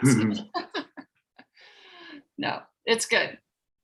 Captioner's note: laughs